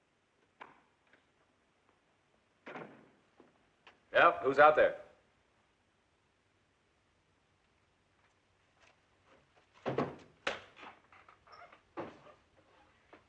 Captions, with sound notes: [ Outside Door Opens and Closes ] Yeah? Who's out there?